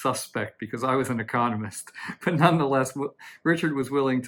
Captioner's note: chuckles